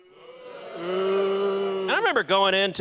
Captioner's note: audience booing